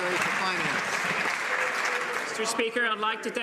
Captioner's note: some Applause